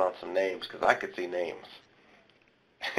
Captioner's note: laughs